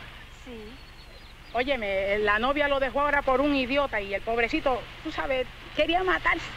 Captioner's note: speaking in Spanish